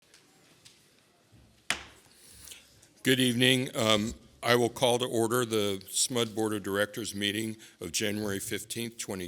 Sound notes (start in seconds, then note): 0.0 gavel